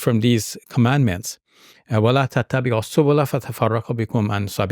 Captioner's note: speaking in Arabic